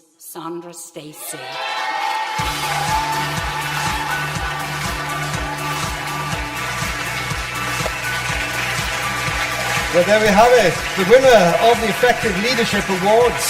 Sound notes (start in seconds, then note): 2.3 upbeat music; 3.0 audience applause